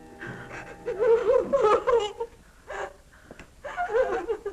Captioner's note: girls crying